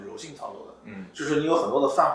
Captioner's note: nonverbal grunt as interjection